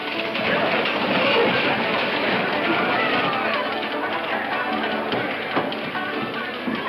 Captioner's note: crowd talks loudly; saloon music